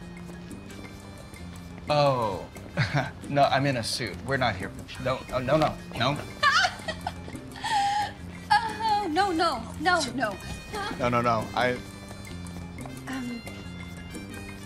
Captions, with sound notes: - Oh, no, I'm in a suit, we're not here for... No, no, no. (laughing) - No, no, no. - No, no, no, I... - Um...